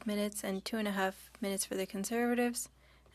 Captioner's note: speaking French